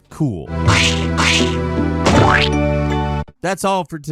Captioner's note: splatting sound effect